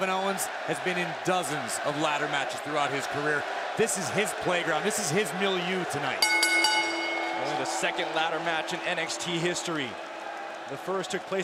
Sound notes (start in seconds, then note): 6.1 bell ringing